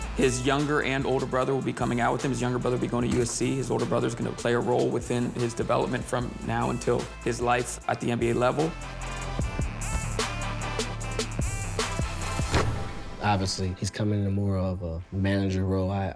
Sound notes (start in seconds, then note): 10.4 intense hip hop music; 12.5 net swooshes